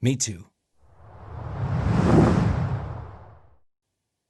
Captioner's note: air swooshing